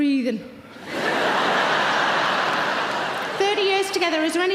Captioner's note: audience laughing